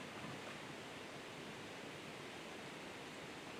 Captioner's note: faint splash into the water